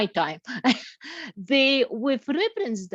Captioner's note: laughs